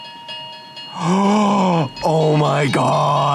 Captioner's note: gasp